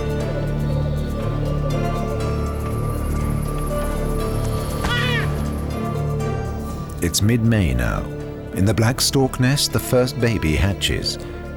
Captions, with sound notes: [adventurous music] [squawking] It's mid-May now. In the black stork nest, the first baby hatches.